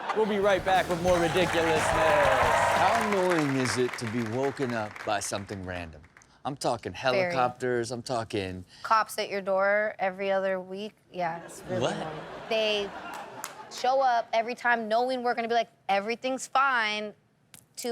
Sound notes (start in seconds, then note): 0.0 audience applauds; 11.5 audience laughs